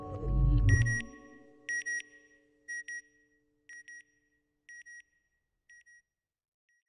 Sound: beeping

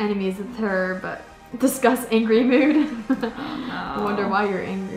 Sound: laughs

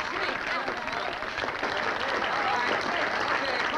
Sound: party goers applauding

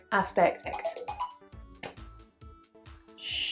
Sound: phone rings

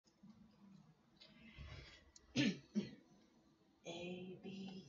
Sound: coughs

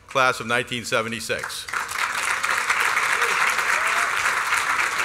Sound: applause

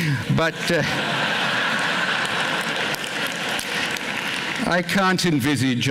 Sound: laughter, applause

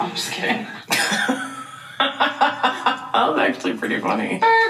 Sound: chuckling

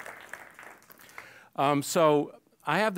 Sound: applause

